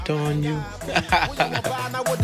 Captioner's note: laughs; singing in foreign language